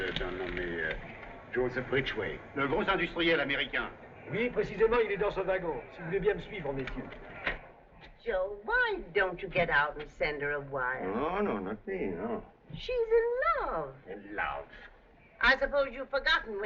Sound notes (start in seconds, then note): 0.1 French